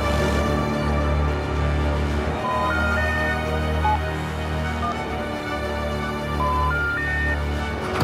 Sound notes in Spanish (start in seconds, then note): 2.9 Tono de desconectado